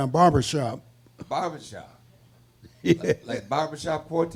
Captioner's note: laughs